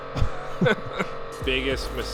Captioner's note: laughing